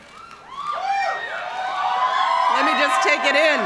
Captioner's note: crowd cheering